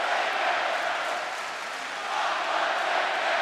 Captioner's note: audience clapping